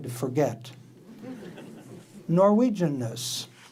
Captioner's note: audience laughing